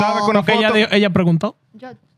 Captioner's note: speaking In Foreign Language